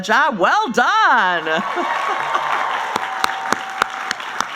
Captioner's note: applauding